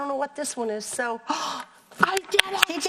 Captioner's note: gasps